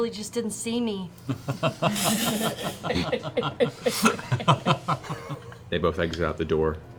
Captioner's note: laughter